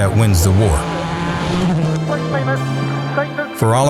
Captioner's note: car zooming